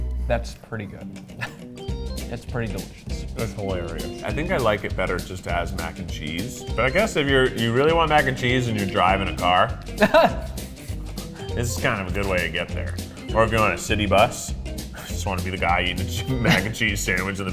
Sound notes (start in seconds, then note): 3.7 jazz music; 9.9 chuckles